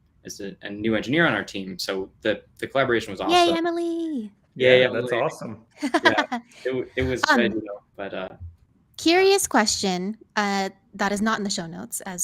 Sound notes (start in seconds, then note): 5.8 laughs